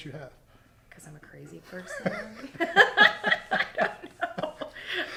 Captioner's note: both laughing